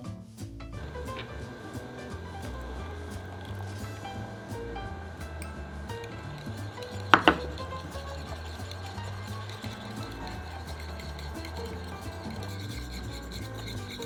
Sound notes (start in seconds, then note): 0.8 simmering; 6.5 whisking